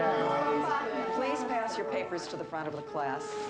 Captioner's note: students murmuring; tense music